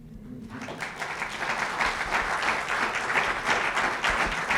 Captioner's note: applause